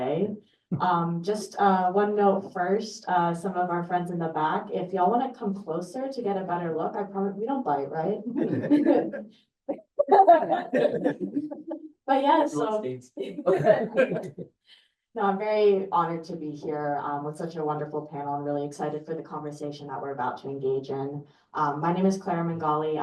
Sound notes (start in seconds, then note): 10.3 laughter